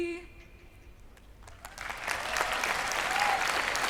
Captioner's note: applause